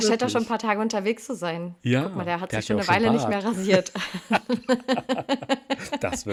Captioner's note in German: gelächter